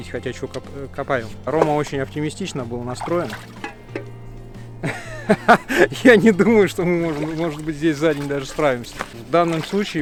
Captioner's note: laughs